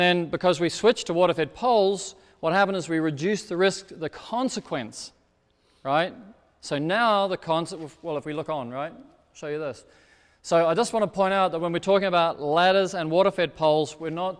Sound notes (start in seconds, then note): none